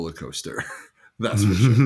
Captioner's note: laughs